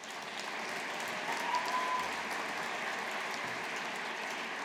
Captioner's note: audience applauding